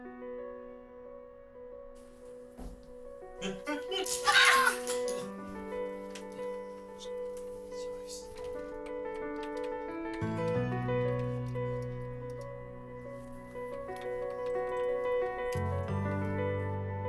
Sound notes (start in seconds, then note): 0.3 gentle orchestral music; 4.4 all laughing; 9.1 gentle orchestral music continues